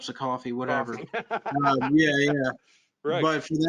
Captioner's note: laughs